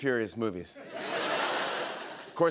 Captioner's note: laughter